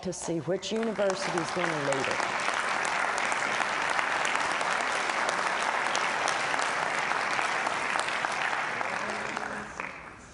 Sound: applause

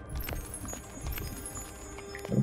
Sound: sparkle

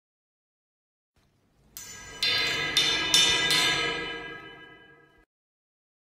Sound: sound of spooky metal

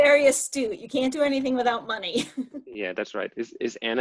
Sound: chuckling

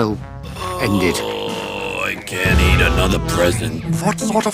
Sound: groans

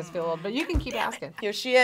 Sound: whispers

